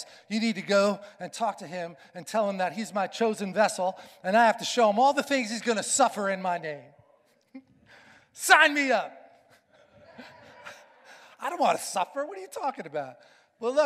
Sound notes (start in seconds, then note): 9.9 congregation laughing